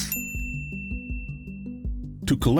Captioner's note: bell rings